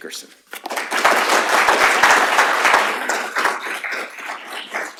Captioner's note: applause